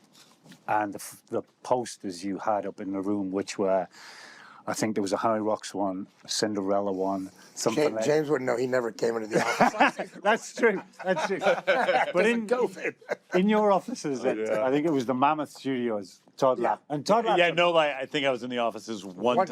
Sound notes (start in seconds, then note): 9.3 all laugh